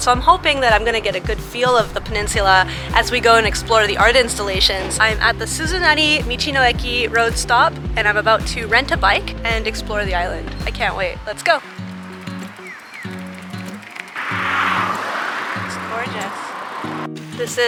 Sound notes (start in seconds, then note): 11.8 relaxed music; 14.3 cars zooming past